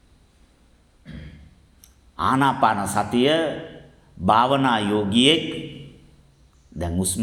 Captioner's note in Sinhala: උගුර කෑරීම